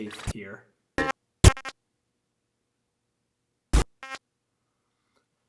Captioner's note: static crackling